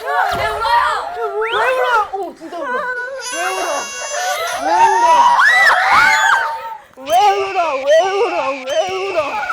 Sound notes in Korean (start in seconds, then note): 3.0 And now someone’s crying